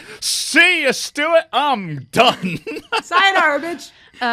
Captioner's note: laughs